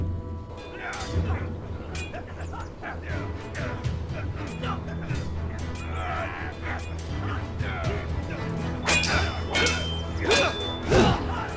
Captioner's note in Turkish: Çarpışma sesleri